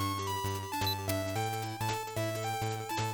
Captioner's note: beep beep beep